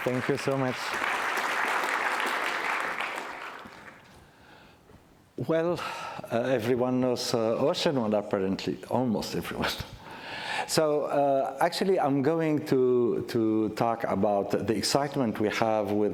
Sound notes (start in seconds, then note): 0.0 applause